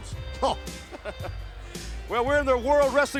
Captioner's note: both laughing